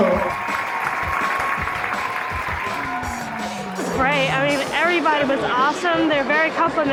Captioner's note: applause